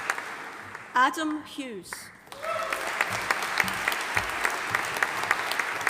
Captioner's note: audience applauding